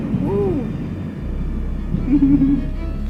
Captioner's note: thunder rumbles